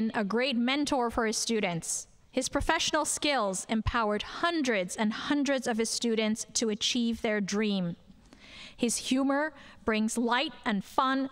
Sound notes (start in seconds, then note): none